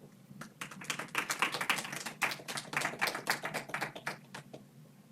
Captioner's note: audience applauds